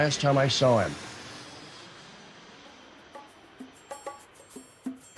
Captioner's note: plane engine roaring